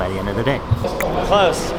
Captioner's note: clicks tongue